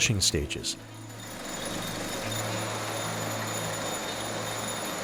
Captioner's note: mechanical whirring